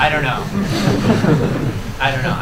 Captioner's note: laughter